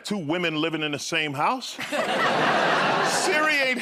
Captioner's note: laughter